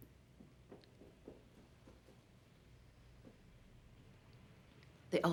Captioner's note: Suzanne's feet patter